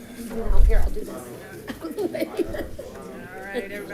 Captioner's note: laughs